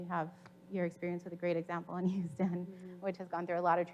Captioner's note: chuckles